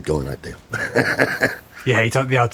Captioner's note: laughs